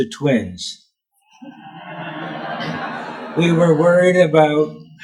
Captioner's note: audience laughs